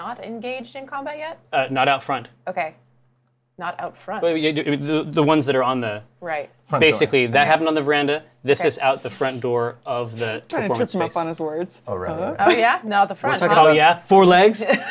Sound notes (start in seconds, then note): 4.5 stutters; 10.5 laughs